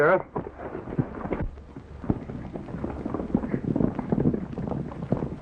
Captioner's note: horses galloping